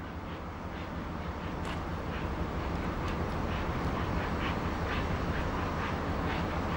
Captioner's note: train passing